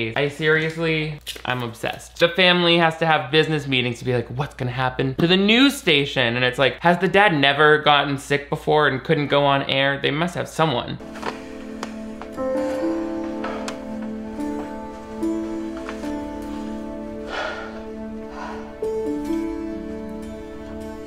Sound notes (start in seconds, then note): 11.3 sad music; 15.2 people sighing